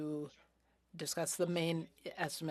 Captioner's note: speaking French